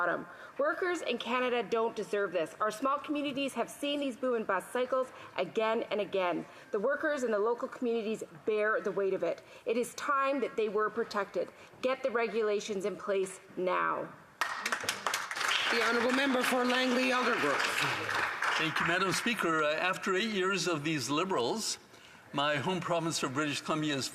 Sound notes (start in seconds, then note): 17.7 some Applause